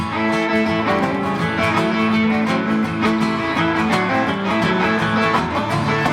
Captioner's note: applause